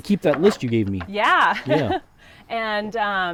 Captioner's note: laughs